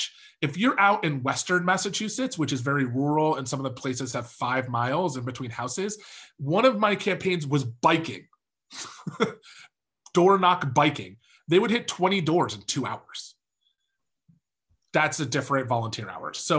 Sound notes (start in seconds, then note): 8.8 laughs